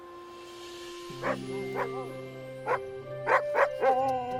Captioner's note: Buck barking